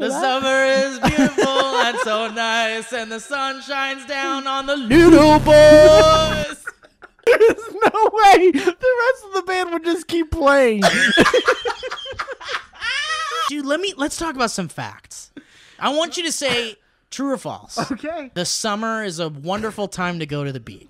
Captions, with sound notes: ~The summer is beautiful and so nice and the sun shines down on the~ LITTLE BOYS *laughter* There's NO WAY the rest of the band would just keep playing! *laughter* Dude lemme... let's talk about some facts. I want you to say true or false. Okay! The summer is a wonderful time to go to the beach.